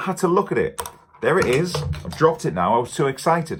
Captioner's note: soft clattering